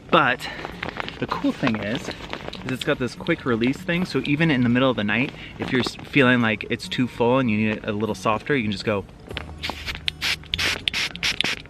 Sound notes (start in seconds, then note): 9.6 air releases